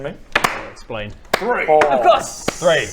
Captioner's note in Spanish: aplauso